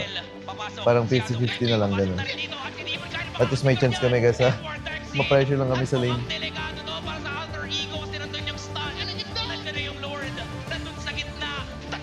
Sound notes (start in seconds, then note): 6.3 background shoutcasting